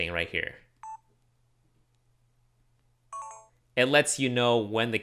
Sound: beeps

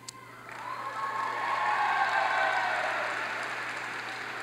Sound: audience applauds

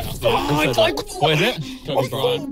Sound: moaning

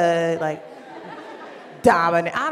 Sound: laughter

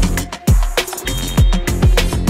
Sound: referee whistle

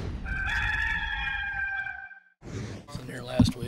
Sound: rooster crowing

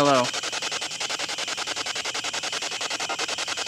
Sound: static pulsing

